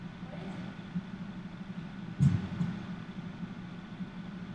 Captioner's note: heartbeats